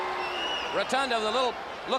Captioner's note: crowd chatter